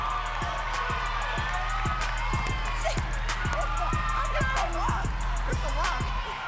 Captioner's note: audience cheering and clapping